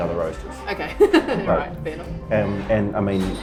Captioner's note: laughs